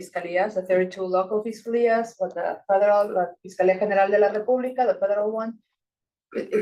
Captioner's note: speaking Spanish